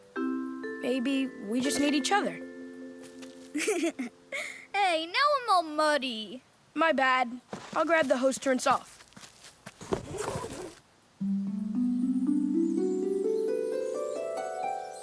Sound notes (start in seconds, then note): 3.5 laughing; 11.2 cheerful harp music